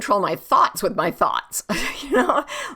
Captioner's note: laughs